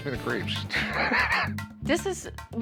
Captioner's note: laughs